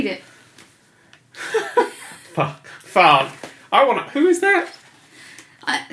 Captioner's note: laughs